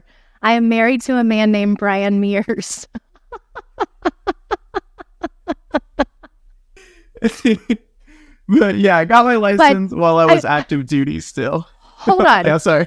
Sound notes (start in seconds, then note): 5.8 laughing